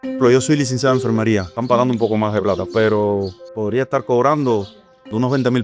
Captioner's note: speaker speaking in Spanish